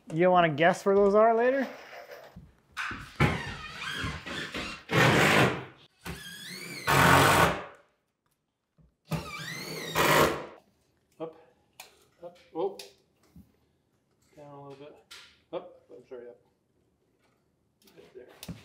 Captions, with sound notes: You don't wanna guess where those are later? (driver whirring) - Up, up. Oh, down a little bit. Up, it's right here. Right there.